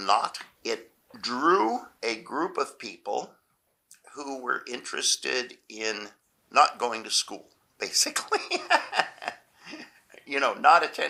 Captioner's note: laughs